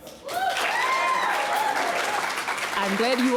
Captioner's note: applause